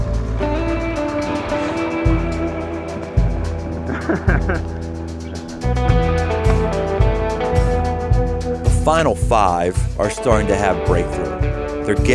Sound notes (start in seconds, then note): 3.6 chuckles